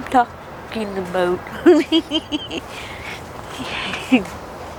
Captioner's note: giggles